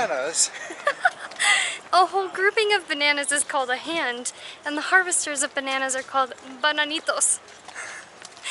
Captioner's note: laughter